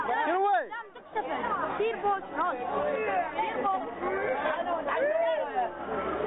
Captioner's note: citizens speaking in foreign language